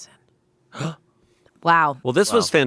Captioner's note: gasps